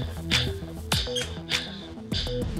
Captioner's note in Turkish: Kapı açıldı